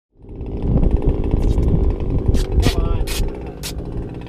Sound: engine noise

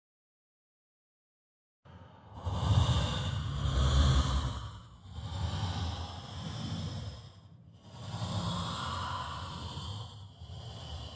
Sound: sound of monster breathing and moaning

